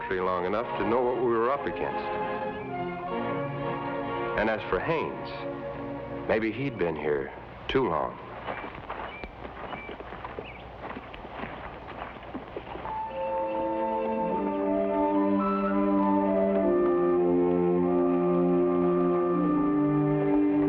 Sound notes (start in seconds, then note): 8.7 birds chirp; 12.8 somber music